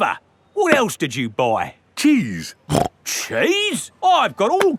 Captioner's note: snorts